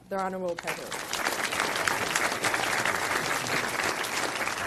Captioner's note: applause